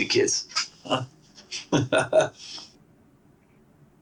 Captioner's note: chuckles; awkward silence